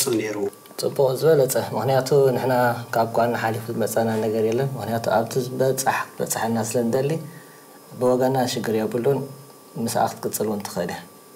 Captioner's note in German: Klient spricht Tigrinisch